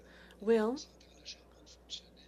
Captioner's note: speaking french